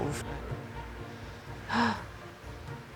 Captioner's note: gasps